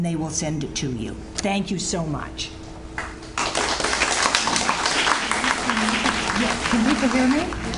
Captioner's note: audience Applauds